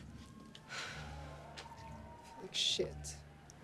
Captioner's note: Kimberly sighs